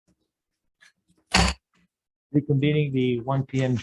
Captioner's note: gavel bangs